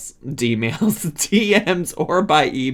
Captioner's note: laughs